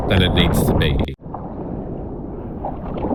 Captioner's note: wind